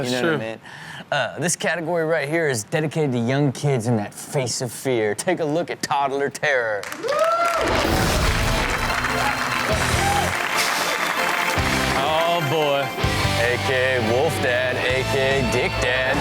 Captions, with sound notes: - That's true. - This category right here is dedicated to young kids in that face of fear. Take a look at Toddler Terror. (audience cheers) (scary music plays) Oh boy. A.k.a. wolf dad, a.k.a. dick dad, a.k.a. Ah!